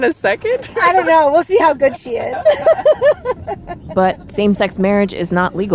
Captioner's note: laughs